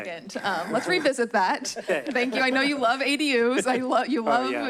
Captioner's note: chuckles